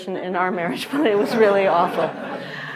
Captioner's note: audience chuckling